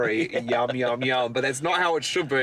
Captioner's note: laughing